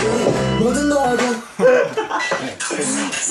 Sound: startled

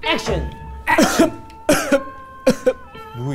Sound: Retainer: cough.. cough... cough

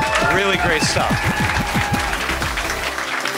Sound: applause

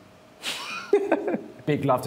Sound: laughter

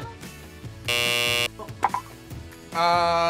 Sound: buzzer blares

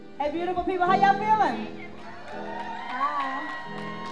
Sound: applause

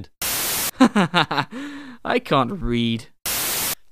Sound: laughs

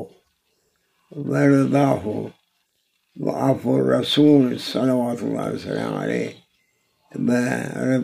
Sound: saws

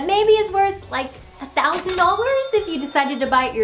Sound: cash register dings

